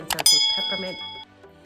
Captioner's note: bell rings